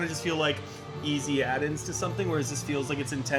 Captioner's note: none